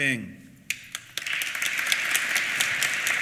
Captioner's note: applause